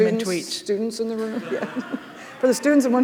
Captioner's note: laughing